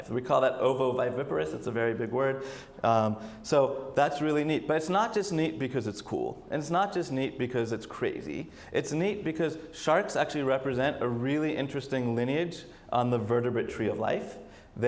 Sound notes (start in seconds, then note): none